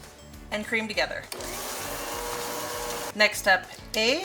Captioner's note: mixer humming